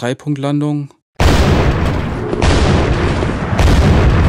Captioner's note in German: Mehrfaches Explosionskrachen